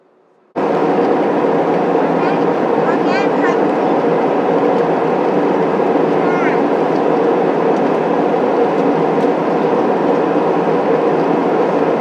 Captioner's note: airplane noise